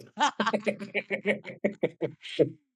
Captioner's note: both laughing